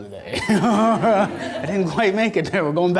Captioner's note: audience laughter